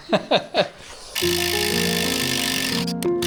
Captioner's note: laughing; drill whirring